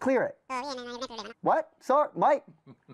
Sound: super fast cartoon voice over telephone

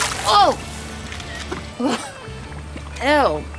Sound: camera shutter

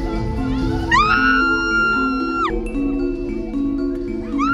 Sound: screams

